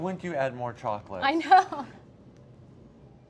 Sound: laughing

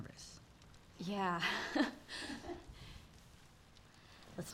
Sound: laughs

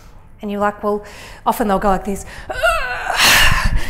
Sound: groans and sighs

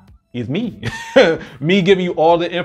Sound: chuckles

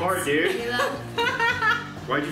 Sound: laughing

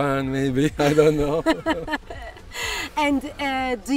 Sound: chuckles

